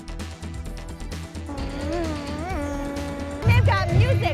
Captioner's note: making car sounds